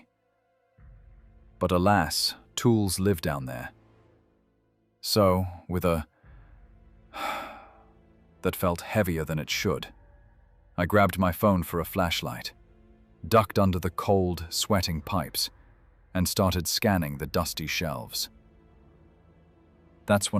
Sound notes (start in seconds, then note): 7.1 sigh